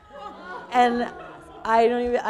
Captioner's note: people laughing